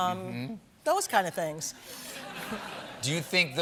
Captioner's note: laughter